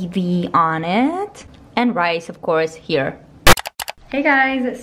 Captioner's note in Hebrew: רעש מעצבן מהתוכנת עריכה סמאללה